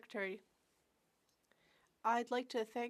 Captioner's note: speaking French